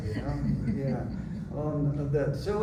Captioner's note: laughter